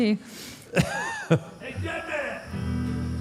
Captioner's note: Mark laughs